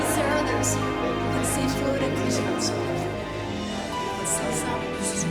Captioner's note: people chattering